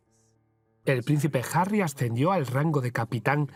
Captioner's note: voiceover